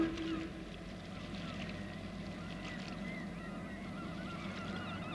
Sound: horn blowing; birds cawing

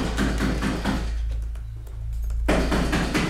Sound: banging

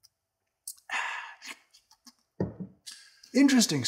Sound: smacks lips

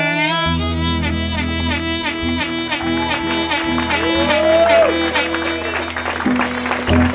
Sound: applause

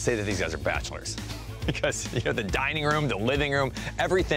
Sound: chuckles

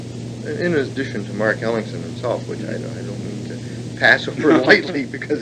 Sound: chuckles

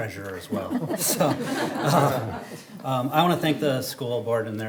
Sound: everyone laughing

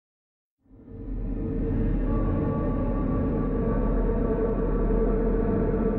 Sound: metallic rumble echoing

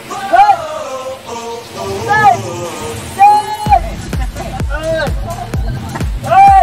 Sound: The sound of the Sealine passing

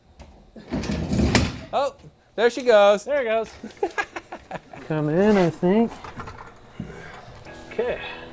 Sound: laughs

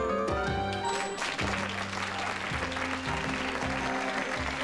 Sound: applause

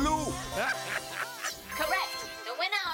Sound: cheering and laughing

